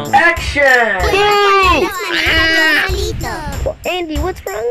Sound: screams

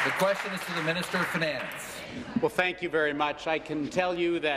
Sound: applause

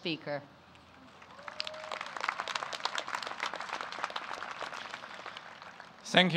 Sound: applause

